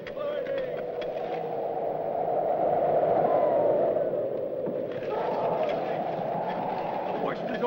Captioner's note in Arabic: تهب رياح شديدة